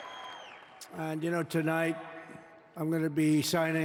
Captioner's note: applause